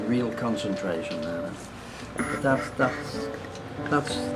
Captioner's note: chuckles